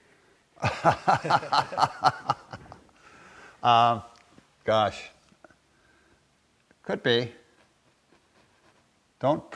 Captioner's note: laughter